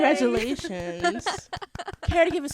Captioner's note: laughter